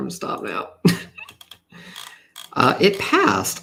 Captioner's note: laughs